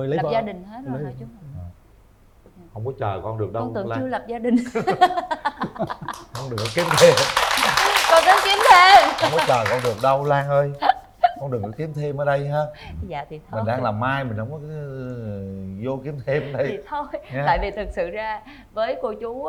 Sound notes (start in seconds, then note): 4.5 laughter; 9.5 applause